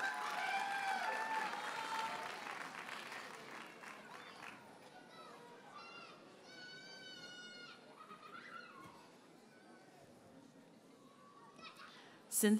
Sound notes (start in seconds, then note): 0.0 audience cheers and applauds; 6.4 toddler shouting and laughing